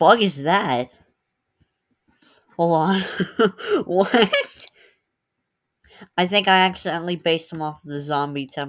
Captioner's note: laughter